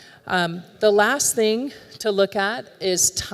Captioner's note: none